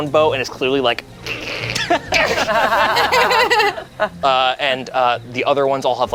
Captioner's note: group laughs; creaking